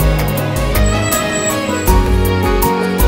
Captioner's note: Car halting